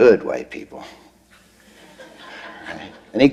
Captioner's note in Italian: Risate